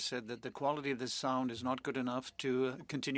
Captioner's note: speaking French